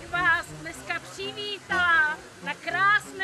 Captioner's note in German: Ansprache auf Tschechisch